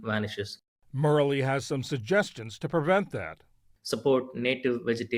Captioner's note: voice-over